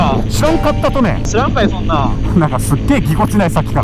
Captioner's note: hakata dialect